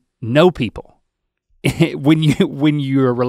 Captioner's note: chuckles